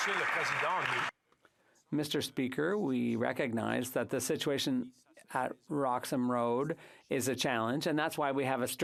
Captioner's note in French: applaudissements